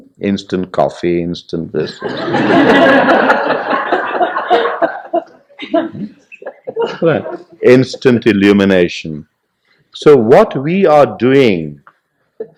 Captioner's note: laughter; laughs